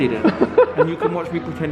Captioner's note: laughing